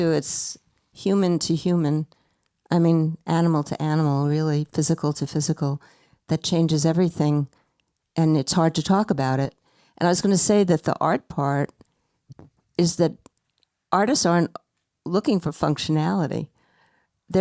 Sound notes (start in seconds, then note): none